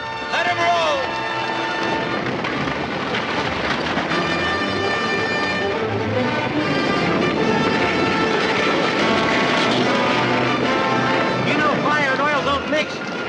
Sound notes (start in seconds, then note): 1.7 galloping; 6.9 fire crackling